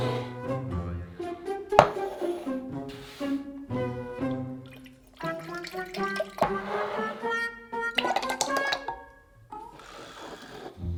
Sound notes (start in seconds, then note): 4.2 liquid pouring